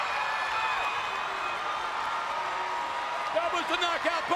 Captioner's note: crowd cheers